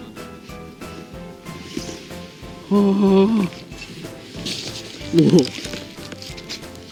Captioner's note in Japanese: 喜びのため息